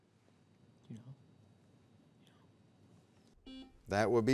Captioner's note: whispers; buzzer beeps